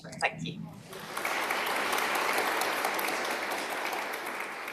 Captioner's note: applause